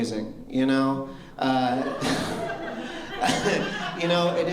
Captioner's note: laughter